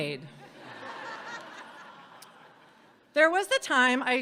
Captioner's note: audience laughing